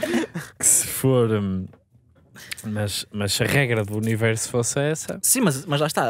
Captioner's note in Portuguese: risos